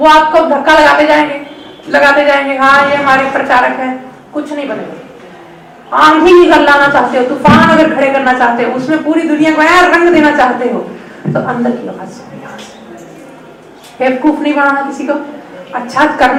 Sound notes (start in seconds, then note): none